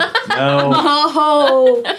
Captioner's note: laughing